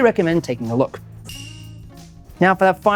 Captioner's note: bell rings